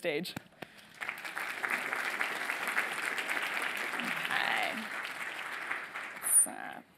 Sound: applause

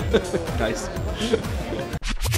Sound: audio scrambling; man laughing

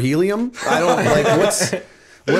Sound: laughter

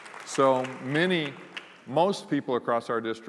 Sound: applause

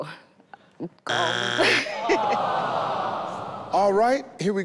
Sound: buzzer sounds

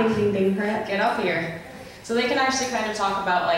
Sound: voiceover

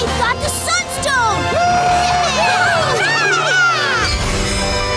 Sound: cheering

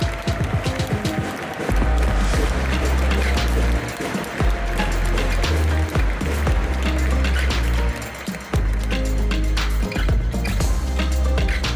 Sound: applause; ♫ Midtempo guitar music ♫

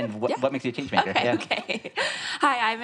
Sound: laughs

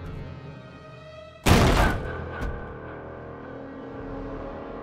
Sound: door smashes open

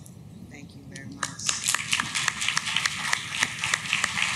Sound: clapping

